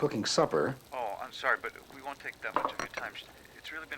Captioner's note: on phone